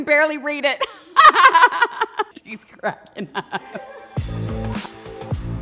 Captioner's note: laughing; upbeat music